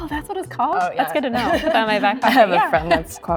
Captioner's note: chuckles